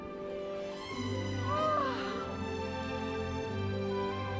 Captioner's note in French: exclamation émerveillée